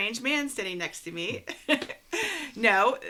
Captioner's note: laughs